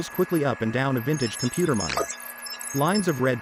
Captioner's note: computer whirring and beeping